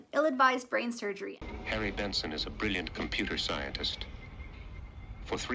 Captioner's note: trailer voice